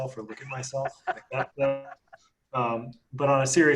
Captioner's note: laughs